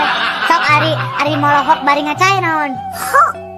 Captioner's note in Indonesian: tertawa